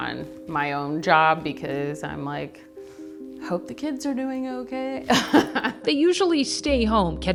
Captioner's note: laughs